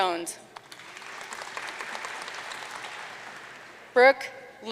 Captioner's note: audience cheering and applauding